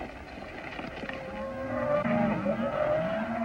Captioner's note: mooing